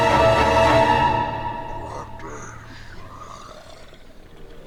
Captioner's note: speaks in demonic language